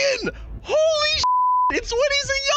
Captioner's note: beep